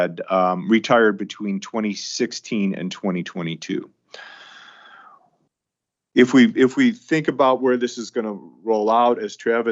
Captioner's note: sighs and gasps